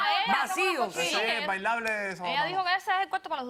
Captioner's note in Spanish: Hablan al unísono